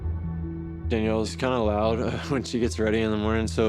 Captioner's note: chuckles